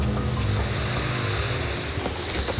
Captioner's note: hissing